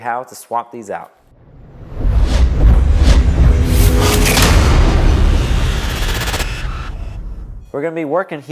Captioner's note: sound effect